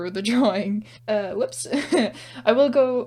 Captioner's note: laugh